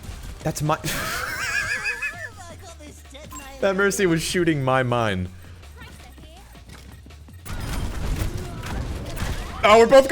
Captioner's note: laughter